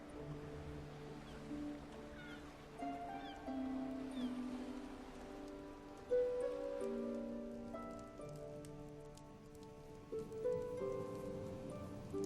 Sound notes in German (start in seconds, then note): none